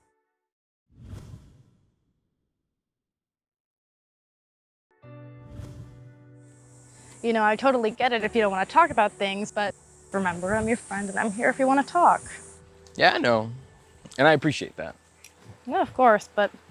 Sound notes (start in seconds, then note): 1.0 slight swoosh sound; 5.1 gentle music; 5.1 slight swoosh sound